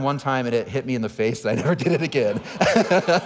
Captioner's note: audience laughing; laughing